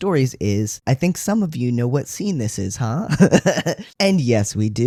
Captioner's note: laugh